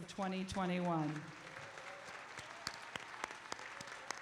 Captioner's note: applause